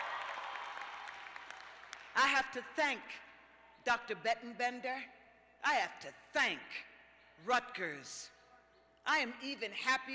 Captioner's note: cheers and applause